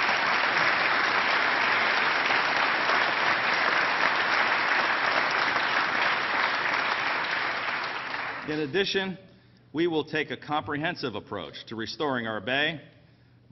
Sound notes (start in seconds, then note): 4.4 applause